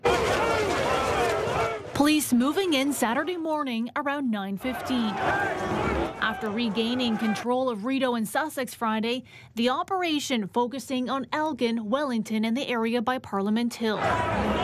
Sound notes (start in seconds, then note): 4.4 sounds of the crowd